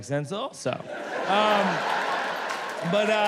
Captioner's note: audience laughs